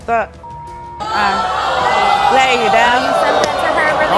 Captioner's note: beeps; audience boos